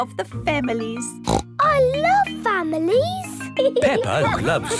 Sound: snorts

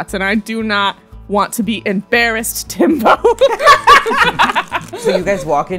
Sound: laughter

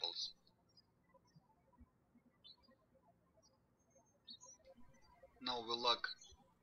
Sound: birds chirping

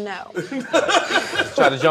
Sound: laughter

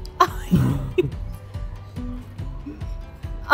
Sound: laughing

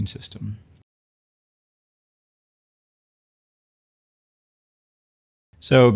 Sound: silence

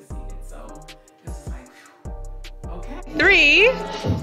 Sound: exhales

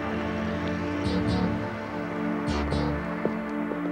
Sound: taxi rumbling

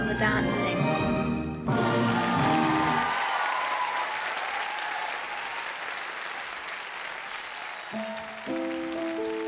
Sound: crowd applauds

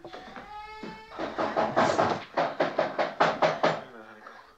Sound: knocking on the door

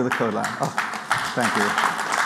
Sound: applause

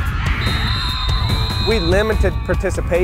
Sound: people shouting; whistle blowing

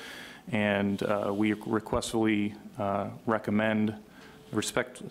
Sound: none

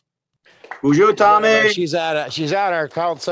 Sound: applause

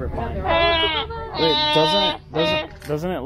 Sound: moaning; laughing

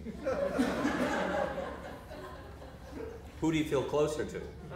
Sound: audience laughter

